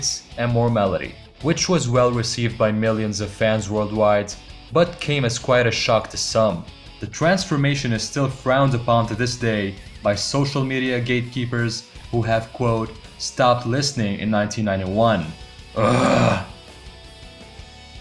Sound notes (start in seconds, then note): 15.7 ugh